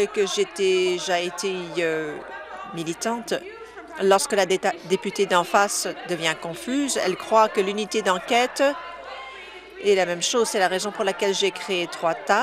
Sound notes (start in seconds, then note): none